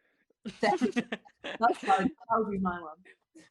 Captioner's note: laughter